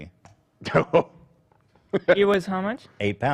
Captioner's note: laughs